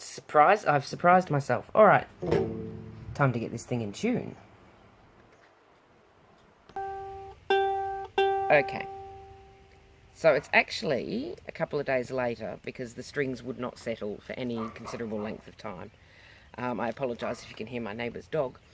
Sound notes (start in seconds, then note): 14.5 dog bark